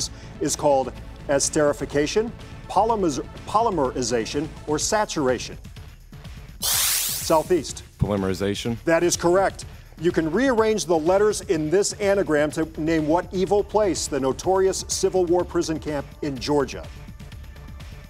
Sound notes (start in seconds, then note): 6.6 buzzing